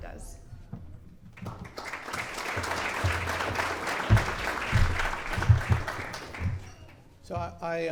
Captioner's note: clapping